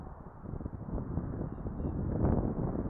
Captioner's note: wind blowing